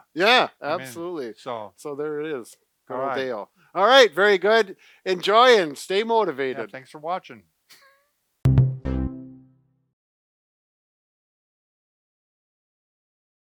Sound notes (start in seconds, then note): 7.7 laughing; 8.4 upbeat music